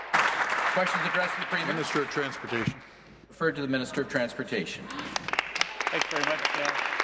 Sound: applause

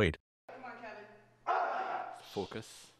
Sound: grunting

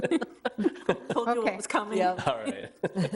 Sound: people chuckling

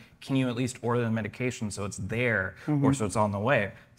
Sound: none

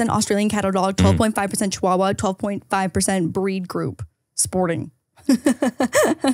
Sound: chuckles

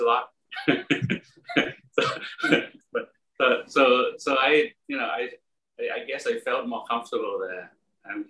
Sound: laugh

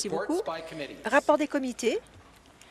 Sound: some Applause

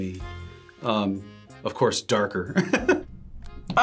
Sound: laughs

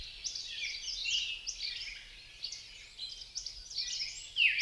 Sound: birds singing

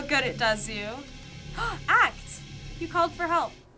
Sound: gasping

